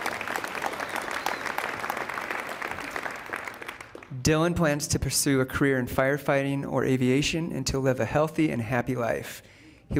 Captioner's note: applause